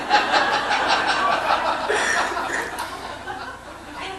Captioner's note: laughing